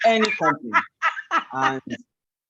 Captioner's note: laughs